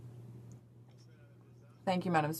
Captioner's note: speaking French